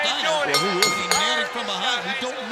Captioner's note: bell ringing